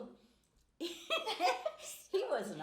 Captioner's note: laughing